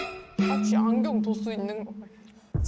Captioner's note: eye-test sound effect